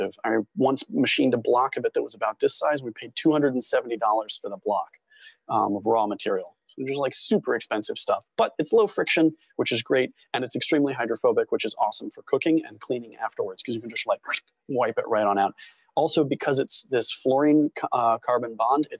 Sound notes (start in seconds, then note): 13.8 squelch